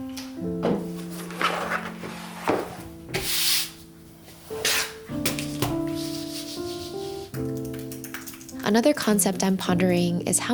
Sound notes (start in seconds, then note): 1.0 leather rustling; 3.1 hand scraping; 6.1 mouse scraping; 7.3 keyboard clacking